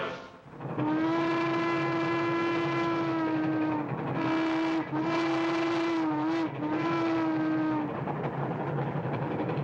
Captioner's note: train rumbling; train whistle blows; train rumbling